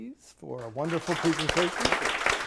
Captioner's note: audience applauding